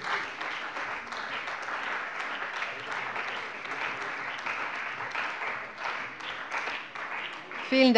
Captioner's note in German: Beifall bei der CDU und dem BÜNDNIS 90/DIE GRÜNEN